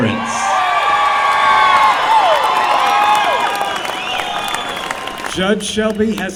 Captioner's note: cheering